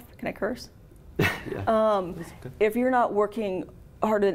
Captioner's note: laughs